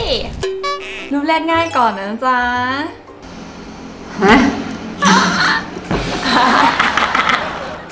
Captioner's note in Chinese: 哈哈哈哈哈